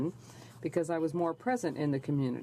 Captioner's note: speaking in french